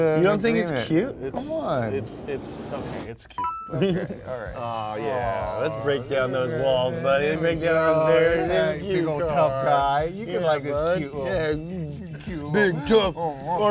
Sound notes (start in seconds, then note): 1.8 wind blowing intensifies; 3.4 bell dings